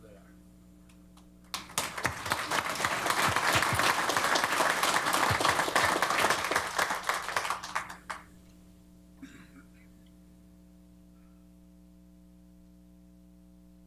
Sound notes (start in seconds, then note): 1.5 applause